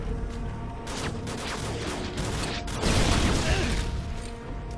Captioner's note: guns firing; suspenseful music